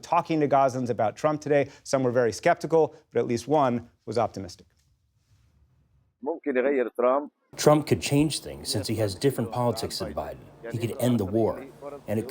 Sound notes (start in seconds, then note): 8.0 through translator